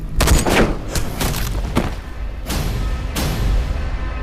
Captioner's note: weapon fires